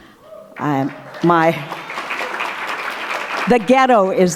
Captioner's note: applause